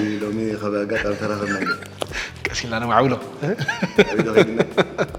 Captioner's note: laughs